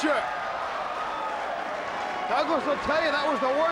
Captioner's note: audience cheering